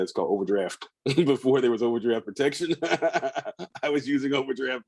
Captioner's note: laughs